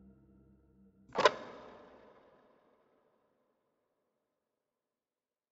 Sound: camera shutter clicking

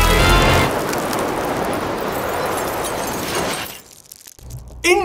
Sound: icicles clinking

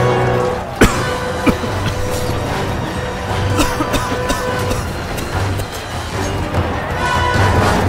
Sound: bunch of coughs

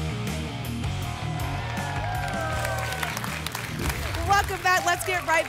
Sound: applause and cheering

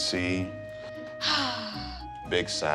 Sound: swap wife sighs loudly

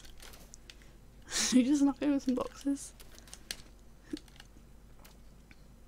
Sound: laughs

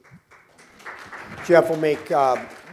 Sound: applause

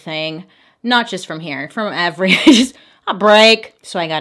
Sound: giggles

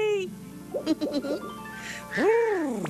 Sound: giggles

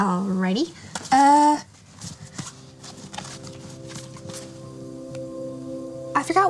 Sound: cards shuffling

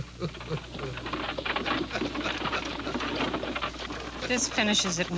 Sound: wagon rattling

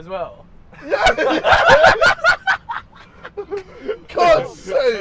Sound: laughing

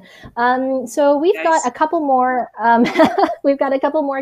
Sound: laughs

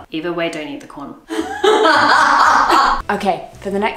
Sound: laughs

